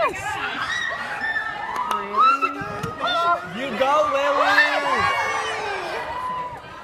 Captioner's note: audience cheers